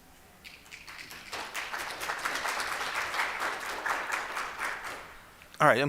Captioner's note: applause